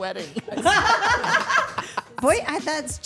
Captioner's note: Stephanie and Dylan laughing